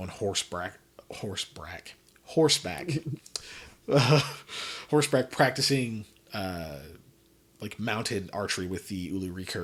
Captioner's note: laughs